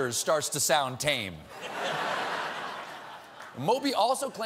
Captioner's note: laughter